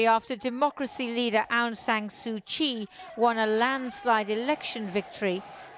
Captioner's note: chanting